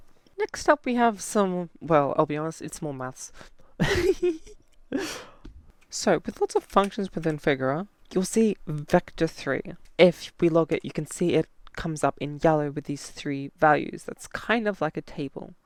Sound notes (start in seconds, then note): 3.8 laughs